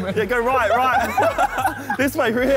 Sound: all laughing

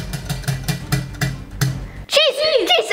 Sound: wheel clicks to a halt

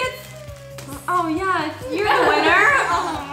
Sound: groans

